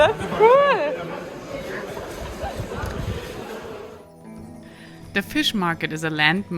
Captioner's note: customers chattering